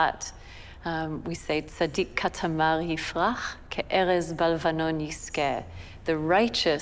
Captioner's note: speaking hebrew